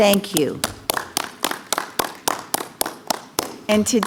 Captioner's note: clapping